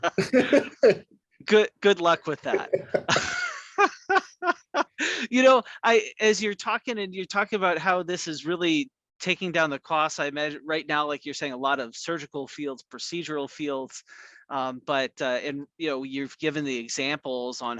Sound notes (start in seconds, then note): 2.4 laughing continues